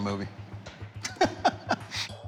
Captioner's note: laughing